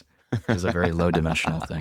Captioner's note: laughs